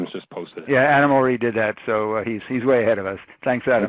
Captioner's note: voiceover